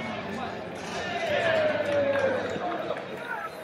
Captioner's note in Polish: Aplauz